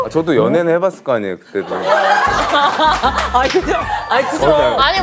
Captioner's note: scratches